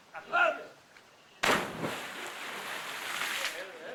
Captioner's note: water splashes